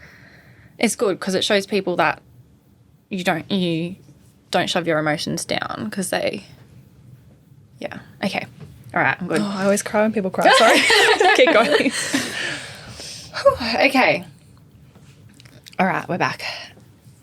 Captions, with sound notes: it's good 'cause it shows people that you don't shove your emotions down 'cause they, yeah. Okay all right. I'm good. - Oh, I always cry when people cry. Sorry. (all laughing) Keep going. - Whew, okay. All right, we're back.